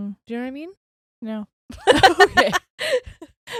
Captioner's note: laughs loudly